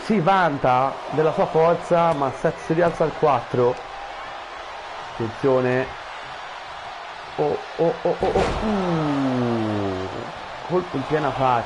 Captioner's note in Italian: Applauso